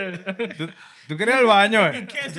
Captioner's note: speaking Spanish